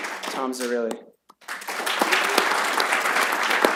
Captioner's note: applause